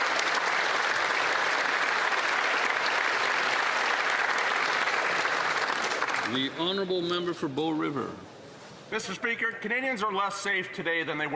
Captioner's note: applause